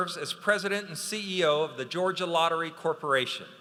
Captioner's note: none